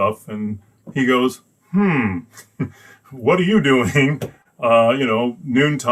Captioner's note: laughs